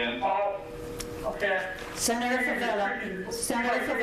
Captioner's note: speaking faintly